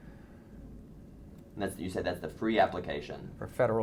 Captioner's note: voiceover